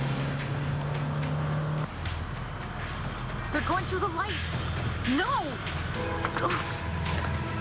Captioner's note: car accelerates